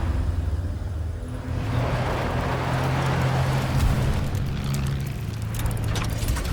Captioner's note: truck engine